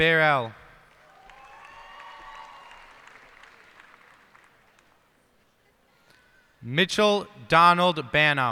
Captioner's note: cheers and applause